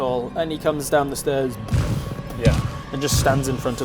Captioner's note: stomp stomp